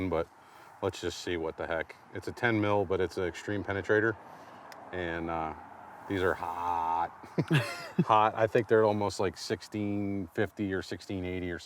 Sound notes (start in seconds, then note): 7.1 laughs